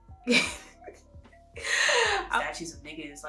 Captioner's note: laughs